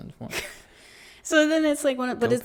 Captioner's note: laughs